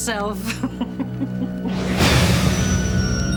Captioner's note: Darlene laughs; eerie music